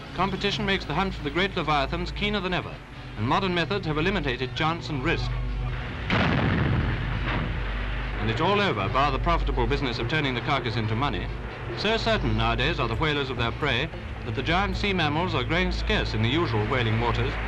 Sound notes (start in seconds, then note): 6.0 shot fires